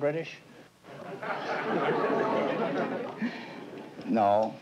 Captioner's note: laughter